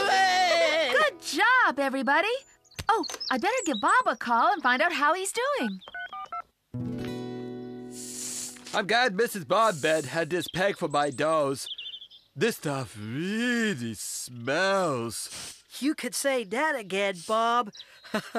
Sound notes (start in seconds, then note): 5.8 cell Phone Tones